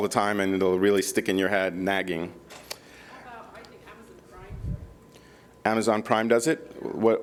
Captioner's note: speaking off microphone